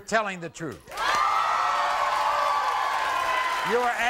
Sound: crowd cheering

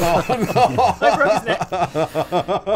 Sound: laughter

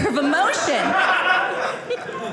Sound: audience laughing

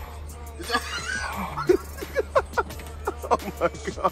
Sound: laughing

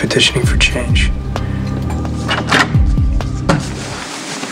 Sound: door opening

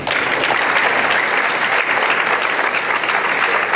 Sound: applause

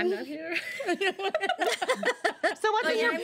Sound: girls laugh

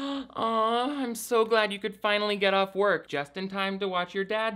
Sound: gasps

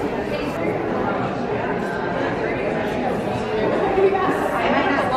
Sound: convention murmuring

